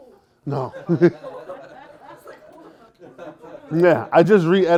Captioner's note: laughter